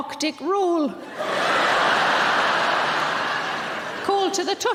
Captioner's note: audience laughing